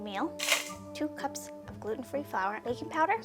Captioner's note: meal clattering